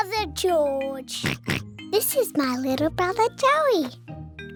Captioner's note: oinks